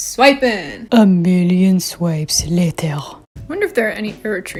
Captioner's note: in my Spongebob narrator voice